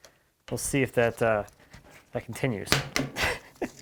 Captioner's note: chuckles